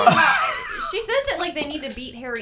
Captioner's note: laughter